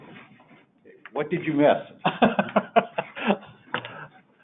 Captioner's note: laughing